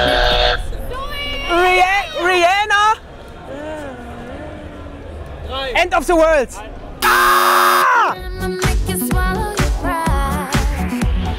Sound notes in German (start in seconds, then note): 3.3 Er summt die Melodie